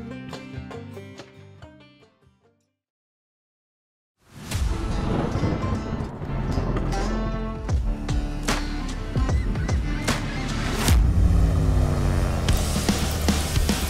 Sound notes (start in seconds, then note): 0.0 mellow bluegrass music; 4.6 thunder crashes; 6.9 upbeat music